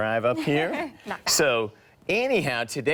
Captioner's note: laughs